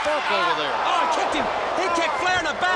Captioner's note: crowd cheering